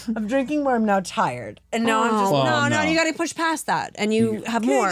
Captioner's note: none